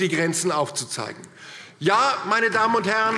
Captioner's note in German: Beifall DIE LINKE